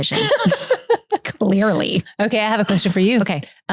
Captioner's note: laughing